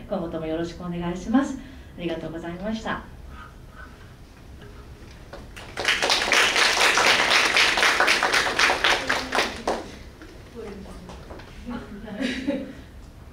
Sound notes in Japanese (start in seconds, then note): 5.5 拍手